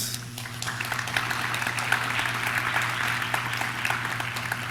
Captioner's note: audience claps